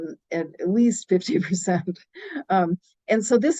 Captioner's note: chuckles